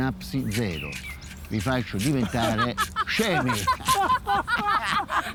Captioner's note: couple laughing confused